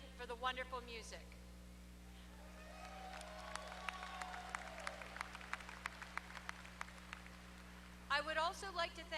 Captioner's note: applause